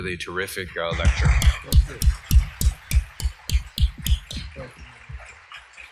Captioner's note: applause